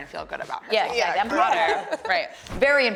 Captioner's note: casual murmuring